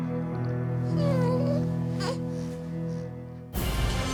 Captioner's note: baby fussing